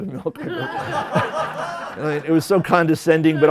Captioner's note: laughter